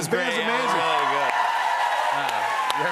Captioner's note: cheers and applause